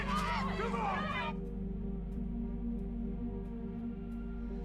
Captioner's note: crowd